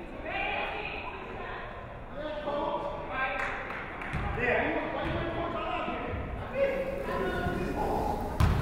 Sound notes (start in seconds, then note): 3.2 crowd chattering